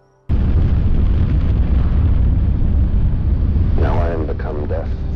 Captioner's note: explosion booms